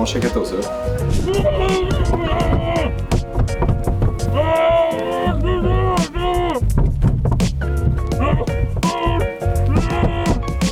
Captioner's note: shouts in the boot